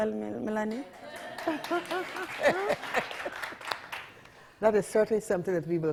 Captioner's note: audience applauding